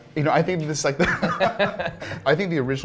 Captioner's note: laughs